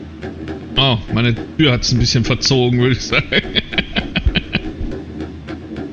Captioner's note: laughs